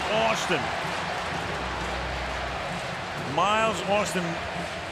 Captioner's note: cheering